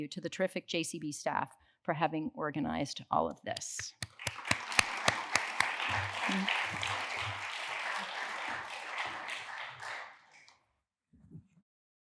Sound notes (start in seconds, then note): 3.6 applause